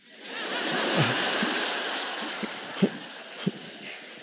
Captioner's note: audience laughing